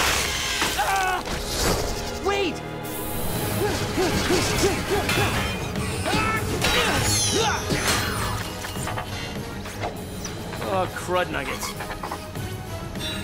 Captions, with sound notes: [screaming] Wait! [grunting] Oh, crud nugget.